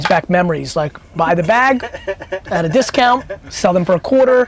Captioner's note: laughs